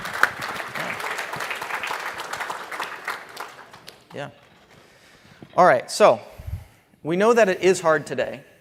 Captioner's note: applause